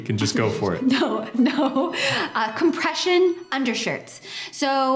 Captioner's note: laughs